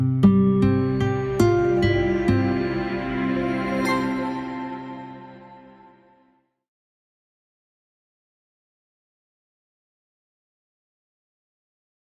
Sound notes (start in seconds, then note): 0.0 gentle music; 7.0 silence